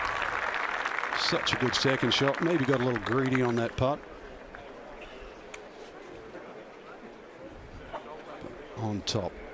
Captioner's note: applause